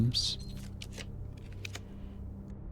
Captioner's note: keyboard clicking